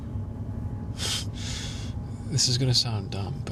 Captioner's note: exhales heavily